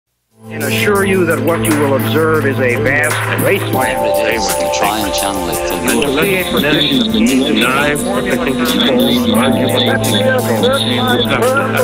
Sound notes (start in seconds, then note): 0.7 male Voice; 8.3 instrumental pop music